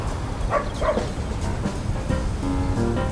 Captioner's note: dog barking